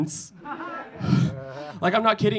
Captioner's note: audience laughing